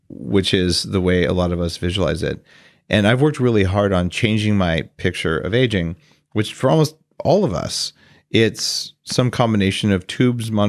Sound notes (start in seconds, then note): none